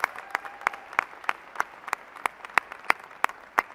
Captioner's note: applause